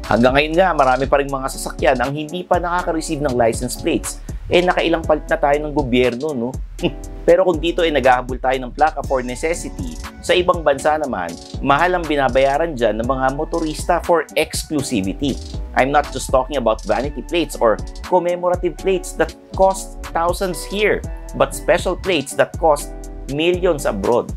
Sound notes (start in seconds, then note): 6.7 scoffs